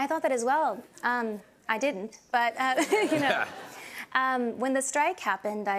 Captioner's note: laughter